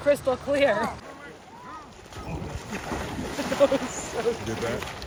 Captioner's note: water splashes